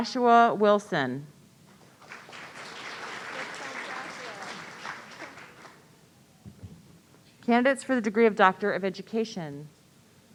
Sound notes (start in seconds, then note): 1.8 audience applauding; 4.5 voice muffling